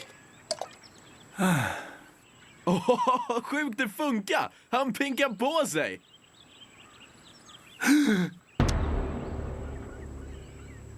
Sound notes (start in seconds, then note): 1.3 sighing; 7.5 gasping